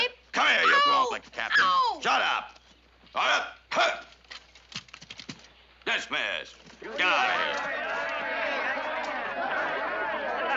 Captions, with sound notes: Come here, you blockhead. Ow! Ow! Shut up. All right, hut. Dismissed. Get out of here. ( soldiers murmuring )